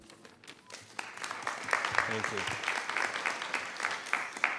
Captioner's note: applause